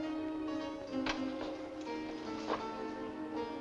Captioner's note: balcony window opens